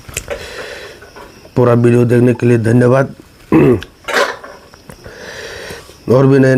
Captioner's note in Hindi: गला साफ़ करने की आवाज़